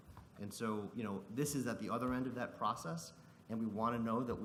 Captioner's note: none